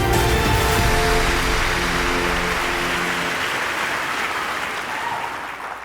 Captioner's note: audience clapping